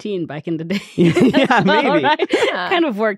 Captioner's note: all laughing